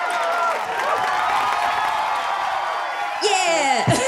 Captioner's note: people cheering